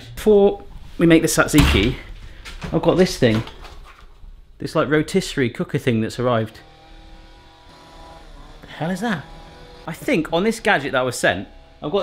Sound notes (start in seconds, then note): 6.2 power tools buzzing